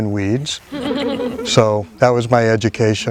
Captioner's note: group laughing